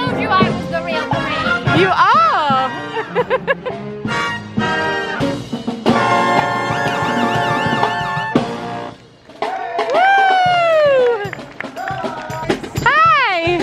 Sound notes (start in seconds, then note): 2.7 laughing; 4.9 1940's band music; 9.3 people cheering and applauding